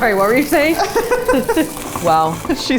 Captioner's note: laughs